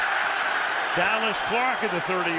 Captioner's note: cheering